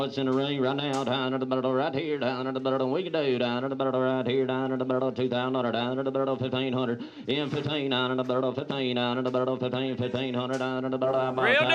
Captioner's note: auctioneering